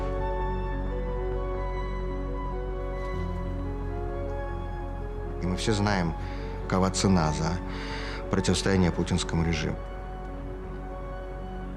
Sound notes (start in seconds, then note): 5.3 Vladimir speaking Russian